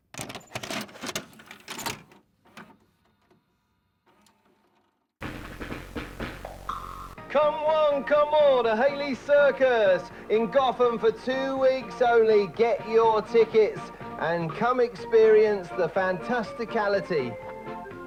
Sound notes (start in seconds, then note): 0.1 VHS inserting into tape player; 5.2 static followed by circus music